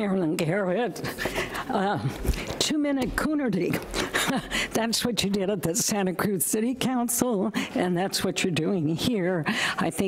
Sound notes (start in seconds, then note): 3.8 laughs